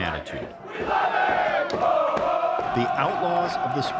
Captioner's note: crowd cheers